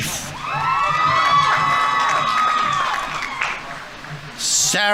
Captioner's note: audience members cheering; audience applauding